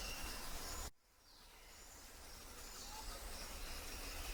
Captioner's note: birds chirping